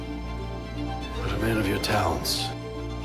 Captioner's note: voiceover